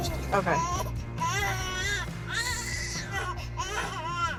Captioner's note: crying